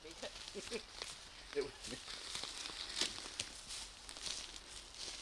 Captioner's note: branches snapping; people chattering